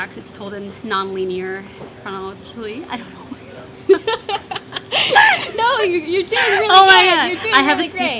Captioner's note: laughter